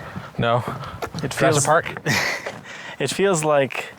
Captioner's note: laughs